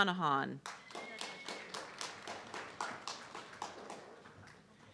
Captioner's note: audience clapping